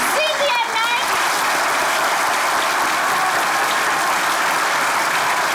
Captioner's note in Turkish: Alkış sesleri